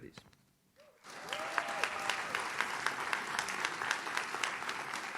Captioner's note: audience claps